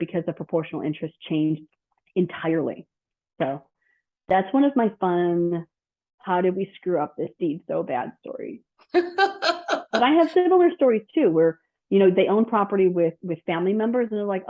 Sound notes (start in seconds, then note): 8.9 laughs